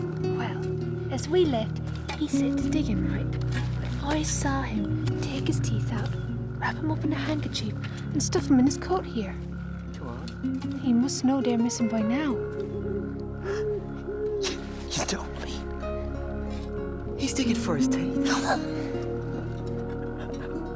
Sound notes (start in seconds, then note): 14.8 owl hooting; 17.2 laughing